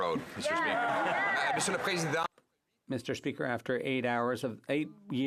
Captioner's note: some Applause